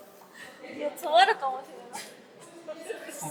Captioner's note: laughs